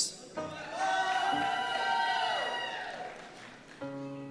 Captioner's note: cheers